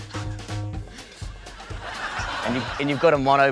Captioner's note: laughter